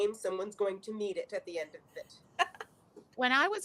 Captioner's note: chuckles